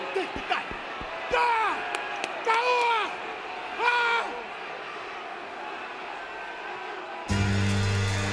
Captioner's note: applause